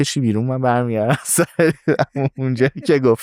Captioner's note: laughs